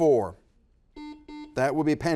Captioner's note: buzzer buzzes